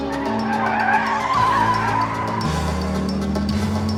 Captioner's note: tires screeching